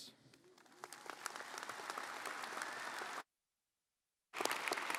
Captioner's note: audience applauding